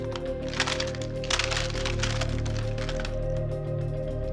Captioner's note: blocks clatter